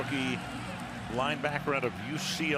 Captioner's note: cheering